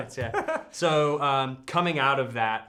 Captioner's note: laughs